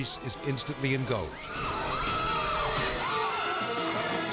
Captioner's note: intense music; screaming